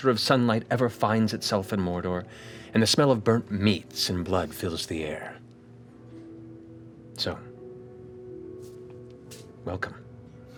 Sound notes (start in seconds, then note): none